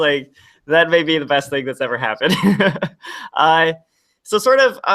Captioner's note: laughs